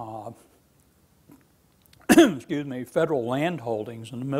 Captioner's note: coughs